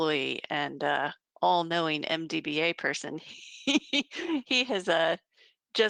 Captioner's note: laughing